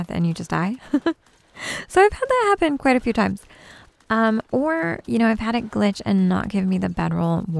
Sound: giggles

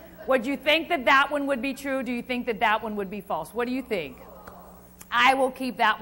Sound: crowd

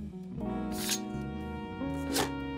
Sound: sword unsheathe

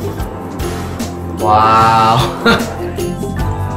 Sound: laugh

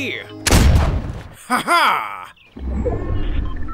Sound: gun fires; laughs; machines whirring

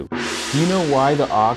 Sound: gong resounds

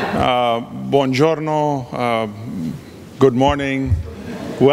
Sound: audience responds in foreign language; speaking in foreign language

